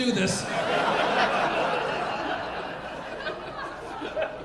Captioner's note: audience laughing